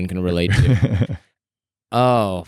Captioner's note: laughs